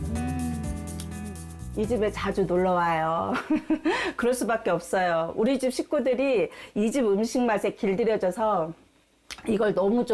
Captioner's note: voiceover